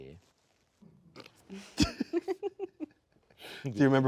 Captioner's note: laughing